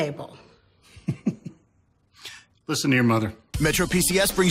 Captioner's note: laughs